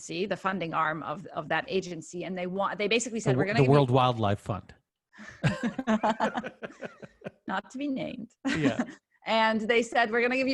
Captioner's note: laughing